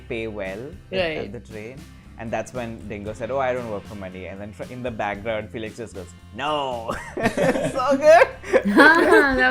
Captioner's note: laughter